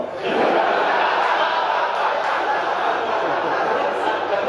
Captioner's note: audience laughing